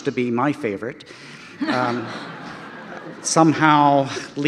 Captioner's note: audience laughter